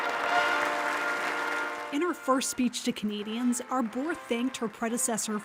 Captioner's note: applause